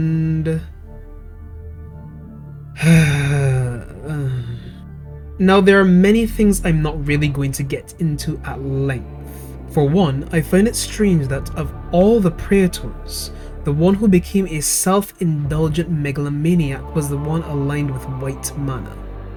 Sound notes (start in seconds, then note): 2.7 exasperated Sigh